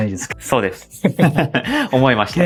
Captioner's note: laughs